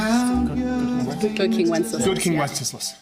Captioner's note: muttering